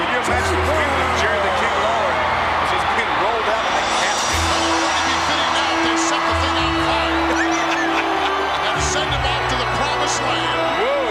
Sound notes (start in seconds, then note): 7.0 chuckles